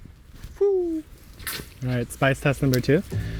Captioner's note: pole clanking